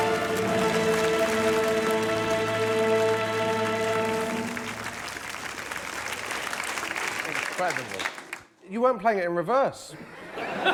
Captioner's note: applause; dramatic music plays; applause